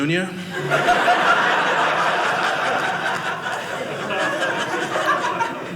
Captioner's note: audience laughing